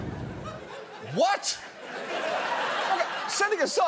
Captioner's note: studio audience laughing